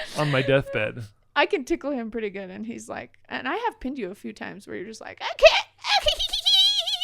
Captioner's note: makes giggling sound